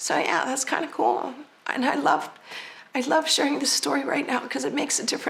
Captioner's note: voice shaking